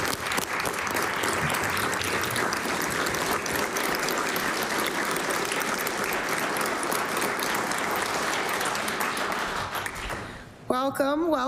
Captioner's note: applause